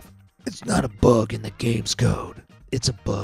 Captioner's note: in Batman voice